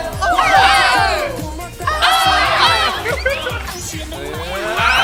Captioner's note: very loud cheering!